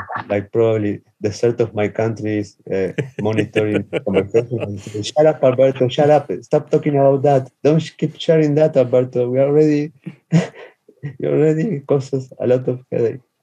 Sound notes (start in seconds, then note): 3.2 laughs